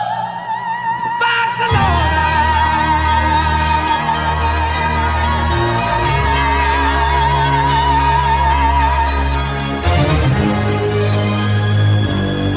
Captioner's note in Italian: Applauso